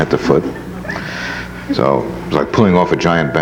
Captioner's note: audience laughs